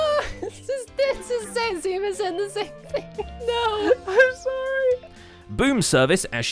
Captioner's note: nervous laughter